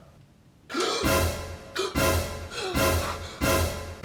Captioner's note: gasps